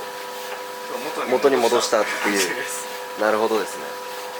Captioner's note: laughs